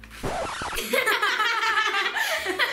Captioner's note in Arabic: سجل الخدوش; يضحك